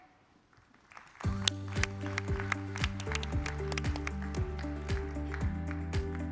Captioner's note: audience clapping; upbeat music